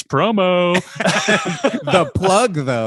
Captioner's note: both laugh